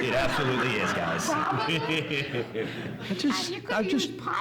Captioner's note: audience laughs